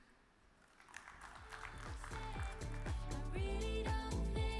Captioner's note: audience applause